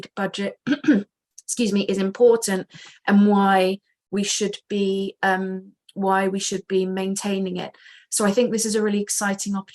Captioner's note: coughs